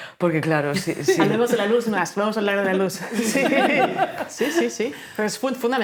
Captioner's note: laughing